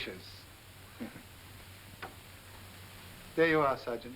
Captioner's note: chuckles